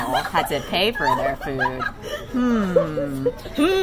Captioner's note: laughter from the table